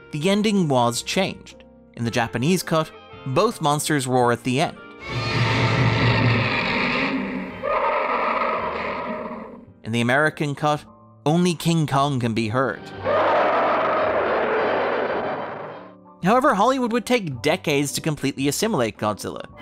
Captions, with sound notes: the ending was changed. In the Japanese cut, both monsters roar at the end. [Monsters growling] In the American cut, only King Kong can be heard. However, Hollywood would take decades to completely assimilate Godzilla.